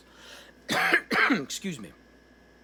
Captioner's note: coughs